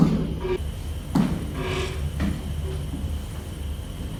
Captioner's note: creaking footsteps